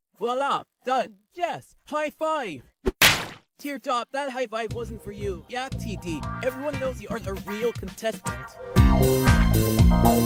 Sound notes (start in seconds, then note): 2.8 smack; 8.6 funky music